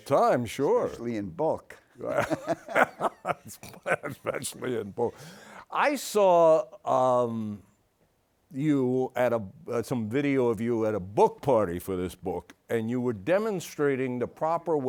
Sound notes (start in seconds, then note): 4.7 laughs